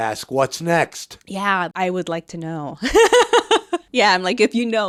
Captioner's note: laughs